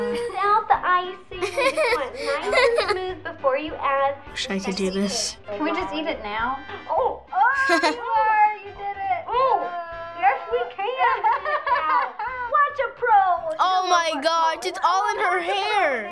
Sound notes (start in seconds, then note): 1.4 giggling; 11.2 laughs